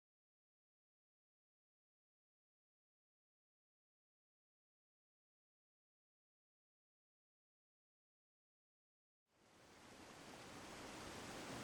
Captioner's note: river rippling